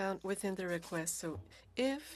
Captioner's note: speaking French